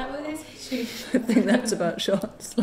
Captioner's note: both laugh